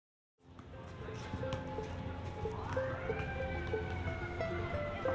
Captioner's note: pensive music; siren wailing